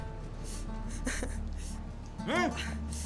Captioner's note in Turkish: ağlama sesi̇